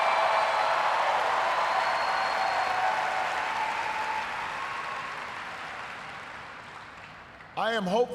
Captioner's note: cheers, applause